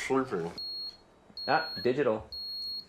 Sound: thermometer beeps

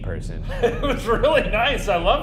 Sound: laughing

